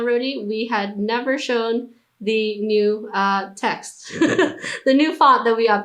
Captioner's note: laughs